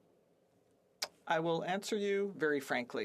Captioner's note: speaking French